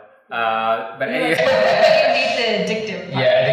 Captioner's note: laughing